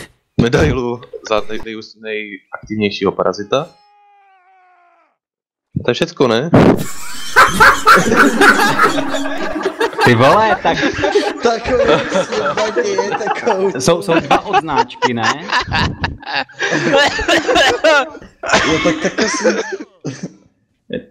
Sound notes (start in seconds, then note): 7.1 everyone laughing; 11.5 mess and laughter; 15.2 background laughter